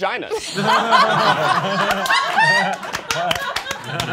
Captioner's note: all laughing